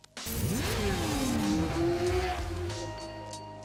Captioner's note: engine roaring